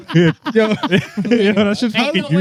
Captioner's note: laughing